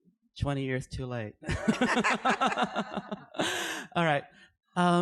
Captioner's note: laughter